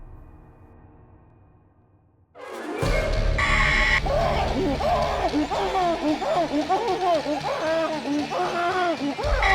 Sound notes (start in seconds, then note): 2.7 dramatic music; 3.4 Danny screams; 4.0 woman screeches